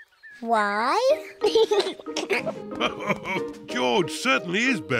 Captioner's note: laughs; giggles; all laughing